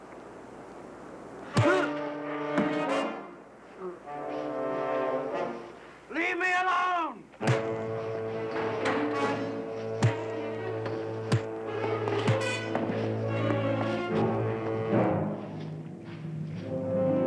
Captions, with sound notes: (loud thud) Leave me alone! (thudding) (dramatic music)